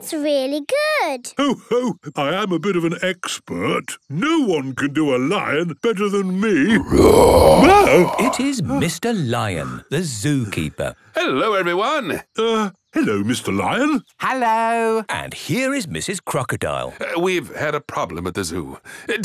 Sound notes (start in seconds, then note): 6.8 loud roar